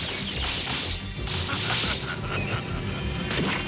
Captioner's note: laughs